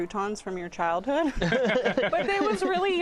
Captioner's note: laughter